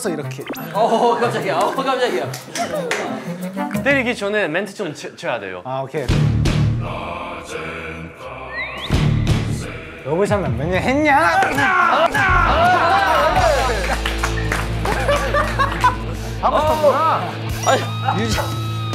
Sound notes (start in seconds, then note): 11.3 slap; 14.8 laughing